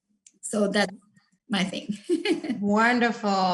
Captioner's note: laughs